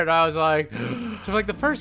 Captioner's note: breathes in